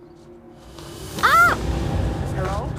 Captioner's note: Lena screams